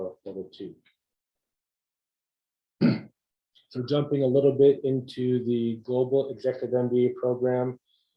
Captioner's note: cough